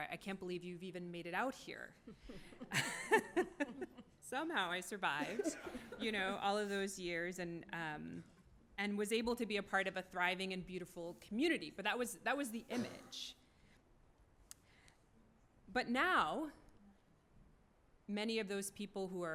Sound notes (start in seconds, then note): 2.1 laughs